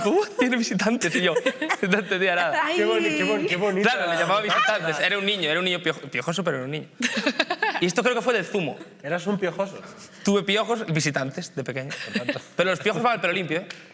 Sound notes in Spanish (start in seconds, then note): 7.0 todos ríen